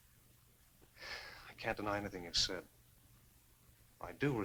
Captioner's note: sighs